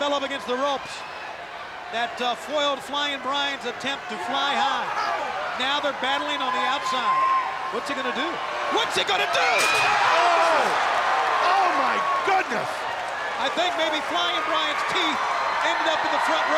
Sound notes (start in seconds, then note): 9.4 safety rail rattling; 12.4 body thudding